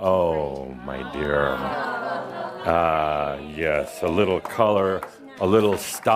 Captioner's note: audience responds “Ahhh!” as he puts it on